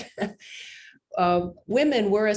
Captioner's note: laughs